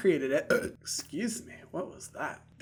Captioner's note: burps